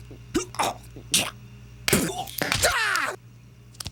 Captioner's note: spits